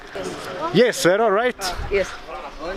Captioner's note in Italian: Inglese